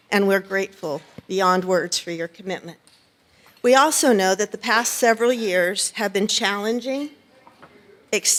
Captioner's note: none